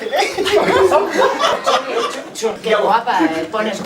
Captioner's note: laughs